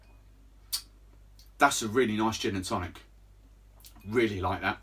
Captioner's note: lips smacking